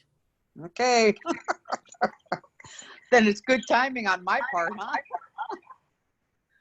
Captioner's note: laughs